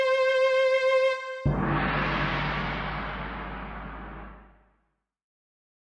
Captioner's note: strings; gong